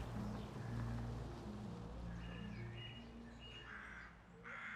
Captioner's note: birds chirping